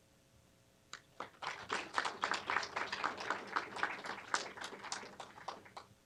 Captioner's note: applause